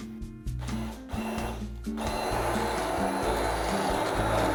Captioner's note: blender whirling